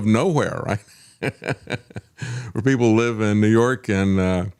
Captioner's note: laughter